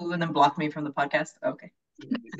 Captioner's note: laughing